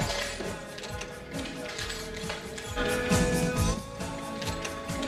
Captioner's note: keys clattering